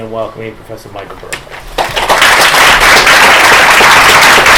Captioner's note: applause